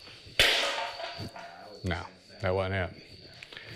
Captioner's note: banging sound